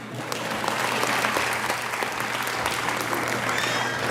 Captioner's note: audience applauding